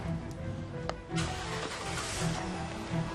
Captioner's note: car engine rumbling